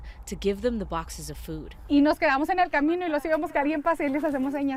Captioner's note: speaking in foreign language